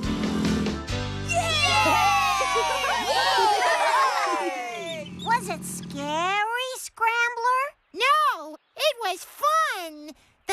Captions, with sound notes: ( Motor Purring ) ( All Cheering ) WAS IT SCARY, SCRAMBLER? NO... IT WAS FUN.